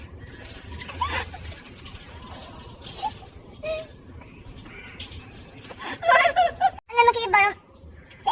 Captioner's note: giggling